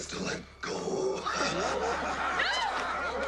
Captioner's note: laughing